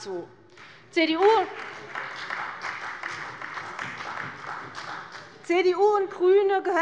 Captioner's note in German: Beifall bei der CDU und dem BÜNDNIS 90/DIE GRÜNEN